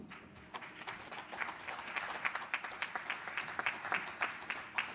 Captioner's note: applause